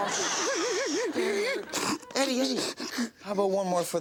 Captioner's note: audience laughs; Eddie cries